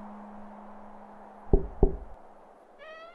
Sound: knocking

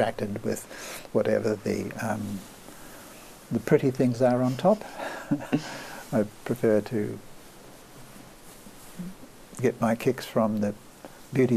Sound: laughs

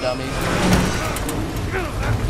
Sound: Joel groans

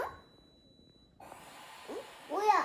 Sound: psssh

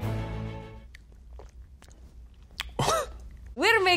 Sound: quirky orchestral music; throat gulping; man coughing

